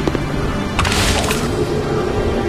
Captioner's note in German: Peitschendes Geräusch